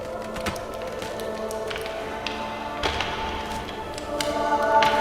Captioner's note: ice crackling